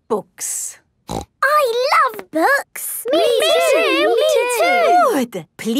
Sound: snorting

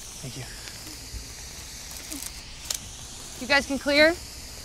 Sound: assistant murmuring

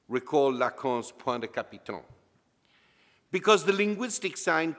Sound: speaks in foreign language

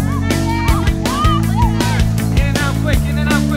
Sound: students laughing and shouting

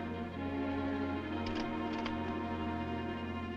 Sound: rifle clicks

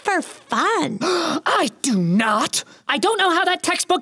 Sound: gasps

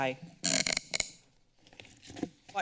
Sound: microphone squeaks

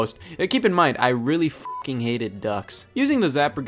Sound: beep

